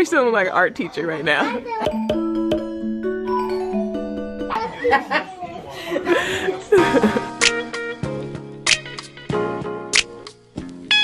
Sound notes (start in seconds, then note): 4.5 laughs; 6.8 mellow jazzy music